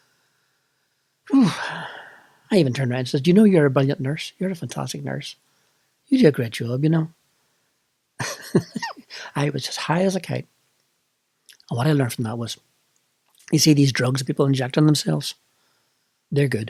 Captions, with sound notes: I even turned round and said “Do you know you’re a brilliant nurse? You’re a fantastic nurse! You do a great job, you know.” [LAUGHS] I was as high as a kite! What I learnt from that was: you see these drugs that people inject in themselves? They’re good!